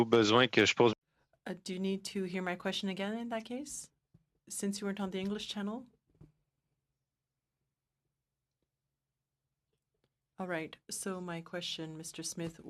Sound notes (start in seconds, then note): 4.6 speaking French